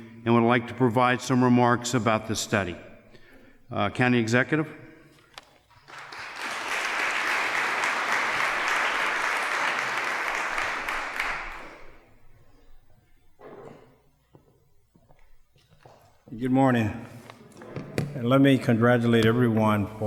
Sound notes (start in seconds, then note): 5.8 applause